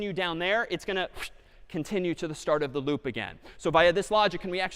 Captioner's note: whoosh